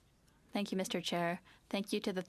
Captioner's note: speaking French